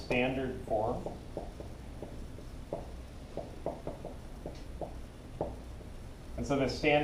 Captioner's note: marker on whiteboard